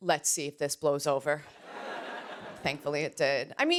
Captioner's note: laughter